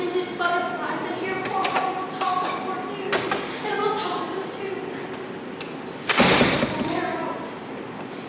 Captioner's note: door opens offscreen